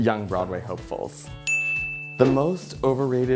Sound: bell dings

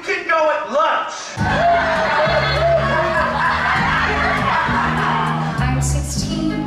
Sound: students laughing

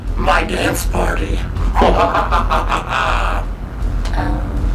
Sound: evil laughter

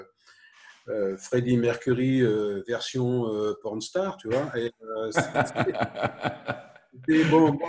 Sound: laughs

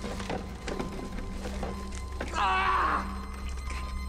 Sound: screams

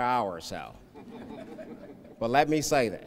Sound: laughing

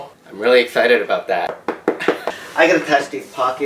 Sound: muffled clapping noise

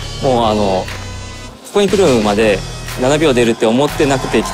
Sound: speaking Japanese

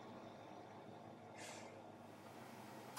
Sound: sigh

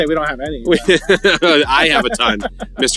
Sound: laughter

